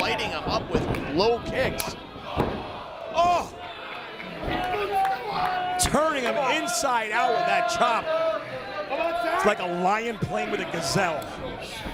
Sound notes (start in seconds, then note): 4.6 applause